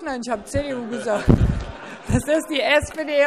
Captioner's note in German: Heiterkeit